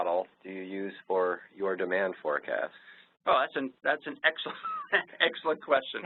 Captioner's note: laughs